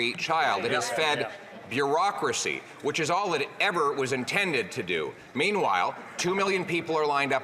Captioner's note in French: voix de l'interprète